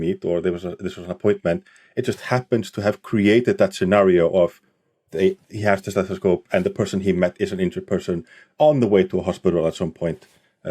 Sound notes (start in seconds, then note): none